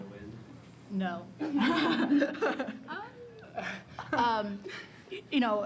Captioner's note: laughter